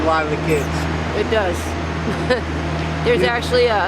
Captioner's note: laughs